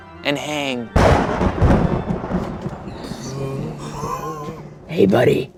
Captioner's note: thunder clapping